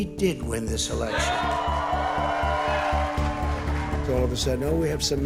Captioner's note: audience cheers and applauds